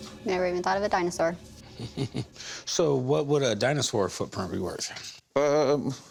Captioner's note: chuckles